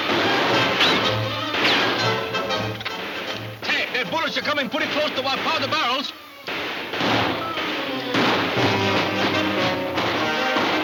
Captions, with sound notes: - Tex, their bullets are coming pretty close to our powder barrels. (guns firing) (dramatic music)